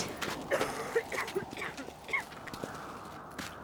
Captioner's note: coughing